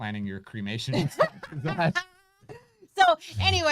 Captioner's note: laughs